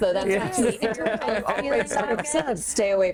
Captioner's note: group chattering